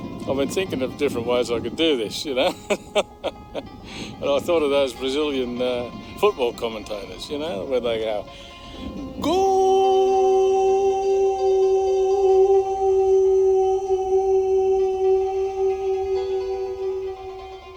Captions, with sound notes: I've been thinking of different ways I could do this. You know. (laugh) And I thought of those Brazilian, football commentators, you know, where they go. GOAL! (reverb)